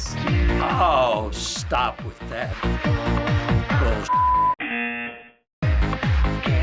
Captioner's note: buzzer